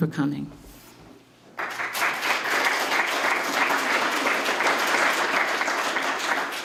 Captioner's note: applause